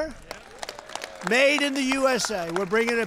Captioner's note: applause